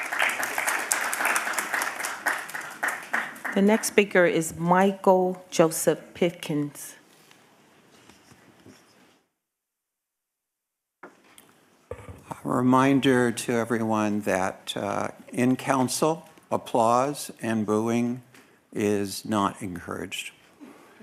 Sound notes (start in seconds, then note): 3.4 applause